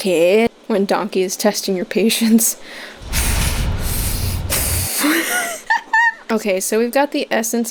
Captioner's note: controlled breaths; guffawing